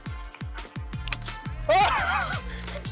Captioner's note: laughs